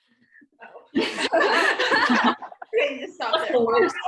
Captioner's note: laughter